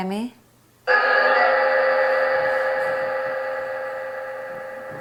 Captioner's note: spirit box echoes